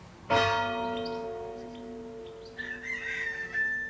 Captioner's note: bell dings; rooster crows